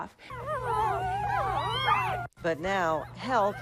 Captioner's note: puppies whining